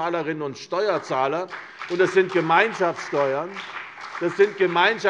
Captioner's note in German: Beifall CDU und BÜNDNIS 90/DIE GRÜNEN